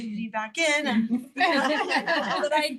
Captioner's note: all laugh